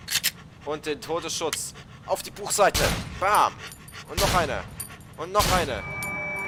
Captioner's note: glock 17 reload; still hackling noises; Glock Shot